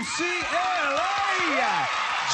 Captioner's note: applause